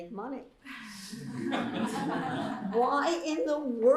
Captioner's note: laughter